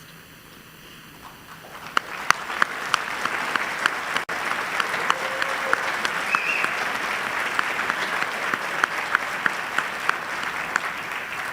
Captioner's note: applause